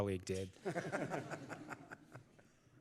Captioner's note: laughter